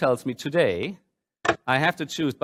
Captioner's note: mechanical clacking